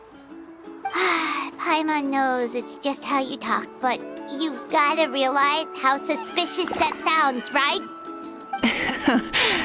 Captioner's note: sigh